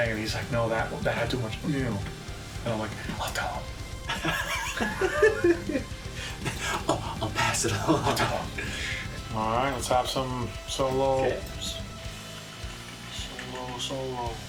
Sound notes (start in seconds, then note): 4.0 laughs